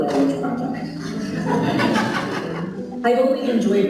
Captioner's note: laughing